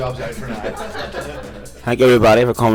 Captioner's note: crew members laugh